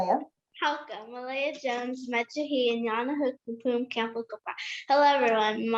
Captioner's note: speaking in foreign language